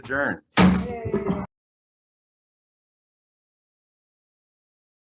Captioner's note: chair sounds the gavel